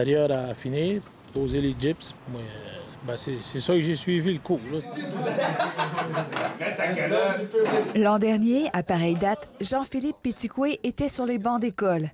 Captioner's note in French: rires